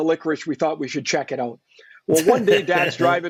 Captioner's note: laughs